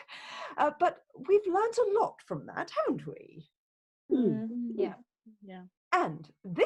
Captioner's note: group murmurs in agreement